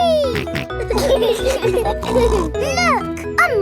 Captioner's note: laughing